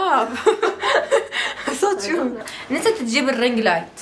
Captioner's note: laughs